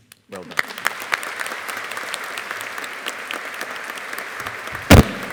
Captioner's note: audience applauding